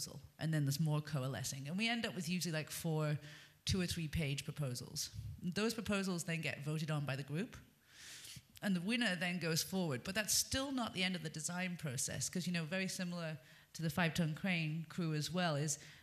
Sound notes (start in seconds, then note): none